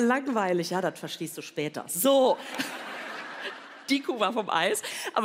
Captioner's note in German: Lachen